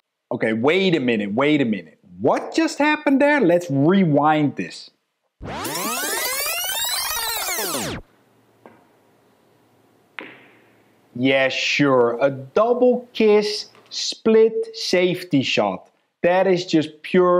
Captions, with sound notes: - Okay, wait a minute, wait a minute. What just happened there? Let's rewind this. (video rewinding) Yeah, sure. A double kiss split safety shot, that is just pure luck.